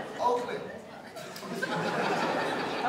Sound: laughter

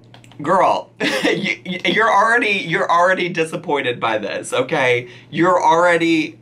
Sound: laughs

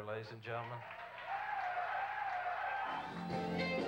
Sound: crowd applauding; jazz music playing

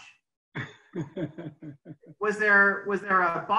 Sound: laughs

